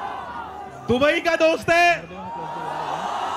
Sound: non-english speech

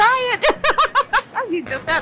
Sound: laughs

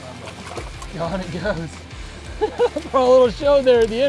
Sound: laughs

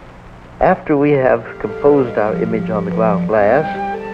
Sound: voiceover

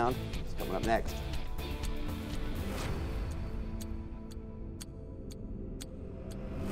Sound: upbeat music; timer ticking

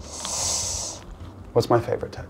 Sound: breathes heavily

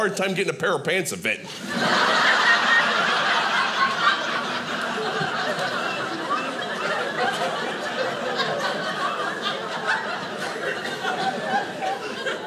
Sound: audience laughing

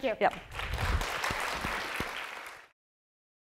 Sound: applause

